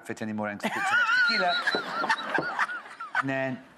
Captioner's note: laughs